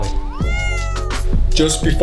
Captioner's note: Charlie meows